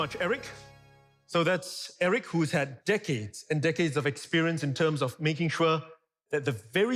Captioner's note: thx sound